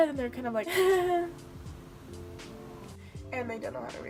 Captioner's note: fake laugh